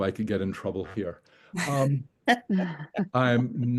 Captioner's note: chuckling